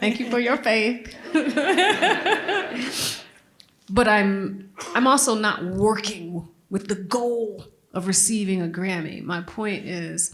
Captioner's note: laughter